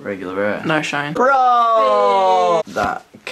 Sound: yelling

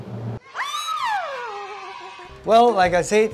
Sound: happy screams

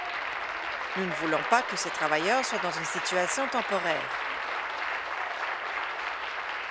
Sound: applause

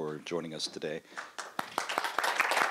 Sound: applause

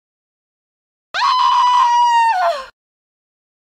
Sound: sound of chilling scream

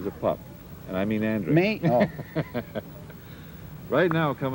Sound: laughs

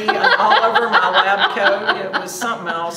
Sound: laughs

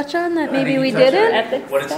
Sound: voiceover

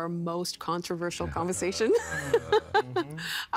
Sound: laughing

